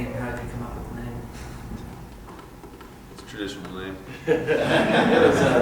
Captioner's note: laughter